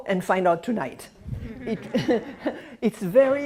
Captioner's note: laughter